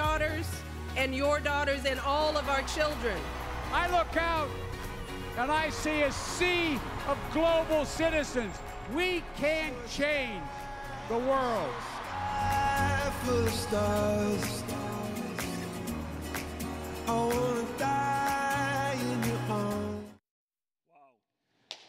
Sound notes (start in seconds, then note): 15.5 applause